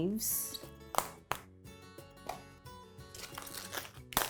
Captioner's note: leaves snapping